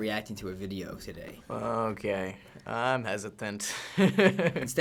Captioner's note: chuckles